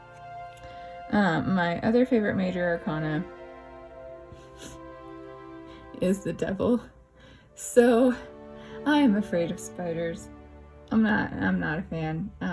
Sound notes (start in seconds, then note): 4.8 laugh